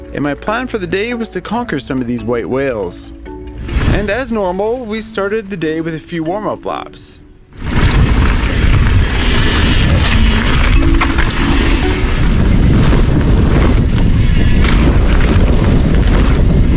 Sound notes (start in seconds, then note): 7.9 tires crushing dirt; 10.1 bike rattles; 10.1 brakes squeak